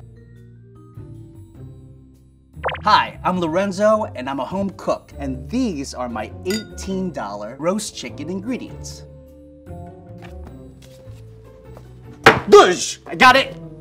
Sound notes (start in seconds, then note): 0.3 mellow music; 2.6 electronic bloop; 12.1 book bangs